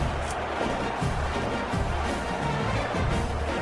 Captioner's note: crowd Noises